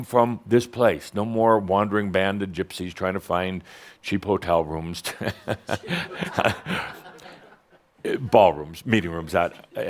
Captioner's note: Adamus chuckles